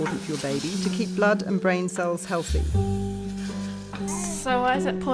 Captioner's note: sound of cooking meat